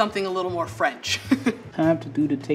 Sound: chuckles

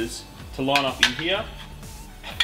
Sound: metallic clattering

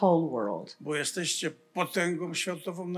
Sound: foreign language

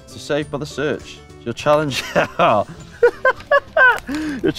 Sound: laughs

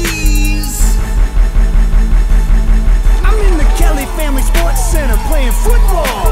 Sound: hits

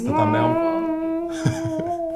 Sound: laughing

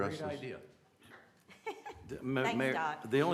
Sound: laughter

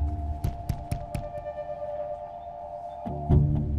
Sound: ominous music; window knocking

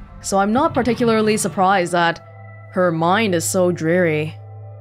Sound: none

